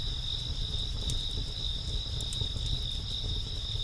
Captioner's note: none